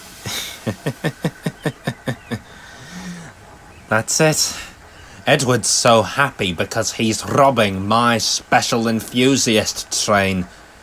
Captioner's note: manically laughs